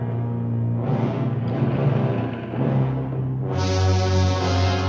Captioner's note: chain whirring